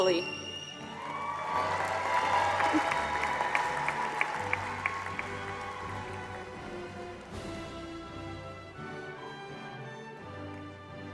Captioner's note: applause